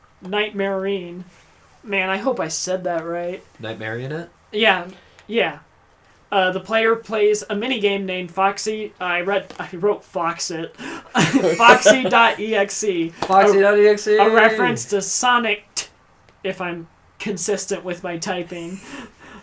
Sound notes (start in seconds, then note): 10.8 laughs